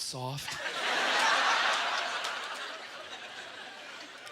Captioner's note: audience laughter